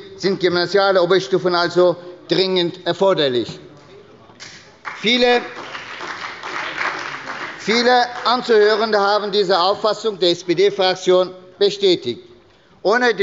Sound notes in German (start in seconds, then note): 4.4 Beifall bei der SPD